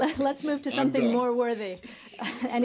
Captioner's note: laughter